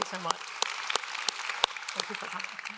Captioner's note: audience applauds